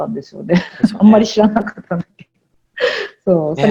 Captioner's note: laugh